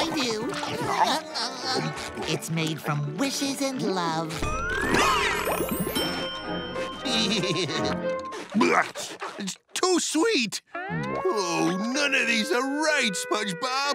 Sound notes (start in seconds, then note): 0.1 giggling; 4.6 belching; 7.0 laughing